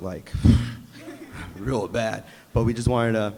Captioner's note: sighs